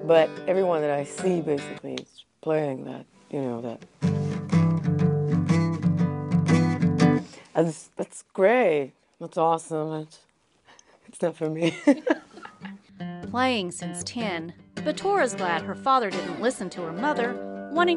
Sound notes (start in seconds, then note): 11.7 laugh